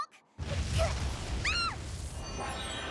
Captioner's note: rumble